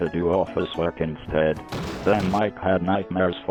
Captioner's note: office working sounds